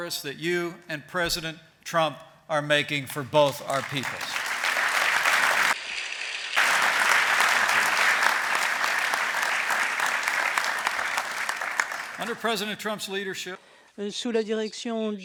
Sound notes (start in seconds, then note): 3.3 applause